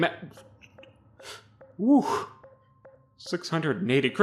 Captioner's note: sputtering